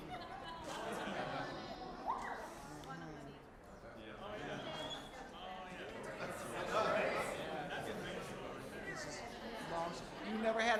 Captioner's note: audience laughing; general chatter